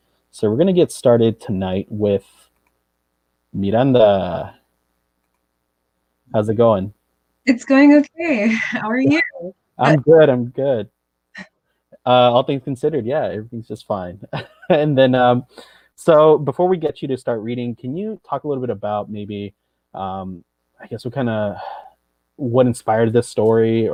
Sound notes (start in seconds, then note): 14.2 chuckles